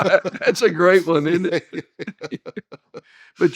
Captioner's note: laughing